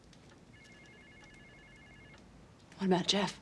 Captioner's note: phone ringing